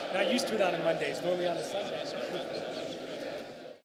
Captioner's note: laughter